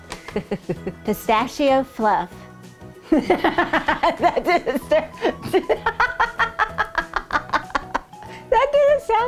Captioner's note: laughing